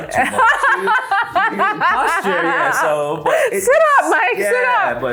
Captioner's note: laughs